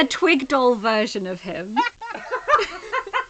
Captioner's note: laughing